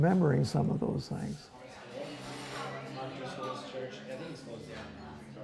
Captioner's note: indistinct chatter